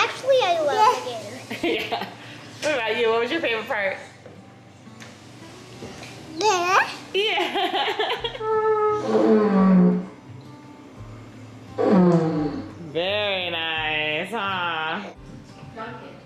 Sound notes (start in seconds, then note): 1.5 laughs; 6.4 baby babble; 7.1 laughs; 9.2 horn blowing